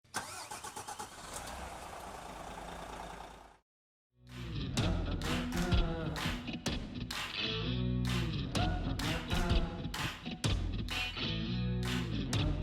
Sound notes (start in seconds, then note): 0.0 engine starts; 4.3 upbeat music